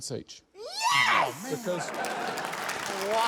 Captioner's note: applause